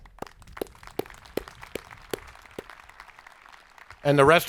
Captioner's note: audience applauding